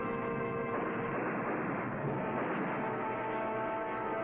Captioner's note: gun firing